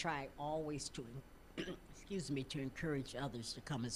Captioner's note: clearing throat